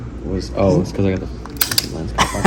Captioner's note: camera clicks; laugh